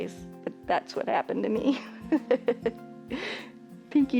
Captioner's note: chuckles